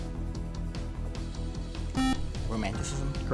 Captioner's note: beep